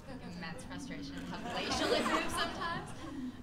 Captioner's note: laughter